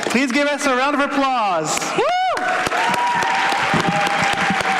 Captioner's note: applause